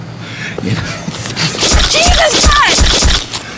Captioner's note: flesh squelching